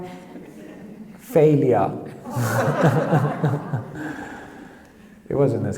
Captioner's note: audience laughs